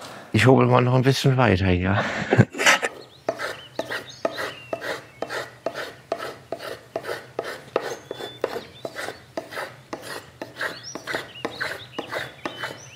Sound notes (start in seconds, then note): 3.3 birdsong